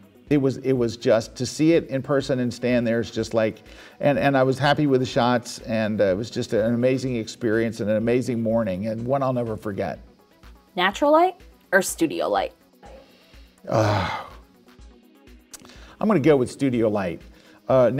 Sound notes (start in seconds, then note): 12.8 sighing